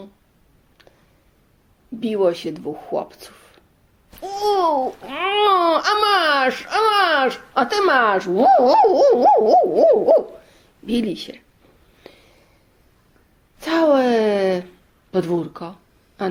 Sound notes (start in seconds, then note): 4.2 sounds of fighting